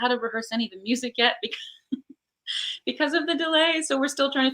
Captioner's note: laughs